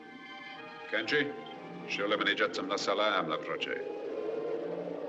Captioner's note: speaking Native Language